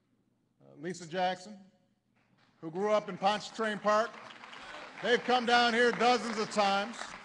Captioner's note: applause